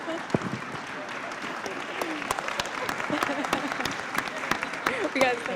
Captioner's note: laughter; applause